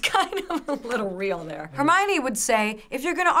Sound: chuckles

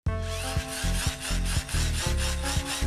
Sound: whirring sound

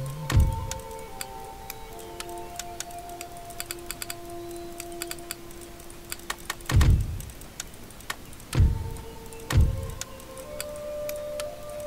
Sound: mouse clicking, more focusing

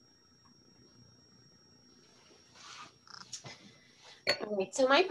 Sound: silence

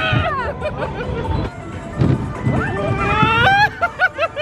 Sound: laughing and screaming; laughs

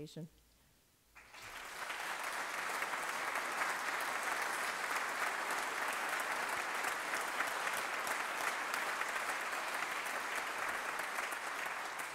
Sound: applause

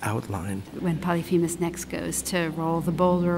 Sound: voiceover

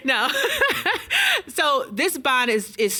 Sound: laughs

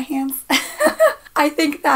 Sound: laughs

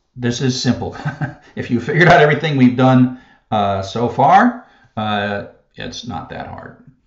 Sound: laugh

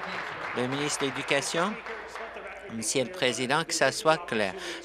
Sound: applause

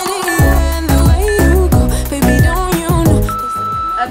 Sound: timer beeps

